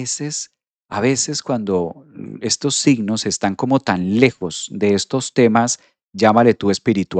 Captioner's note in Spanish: carraspeo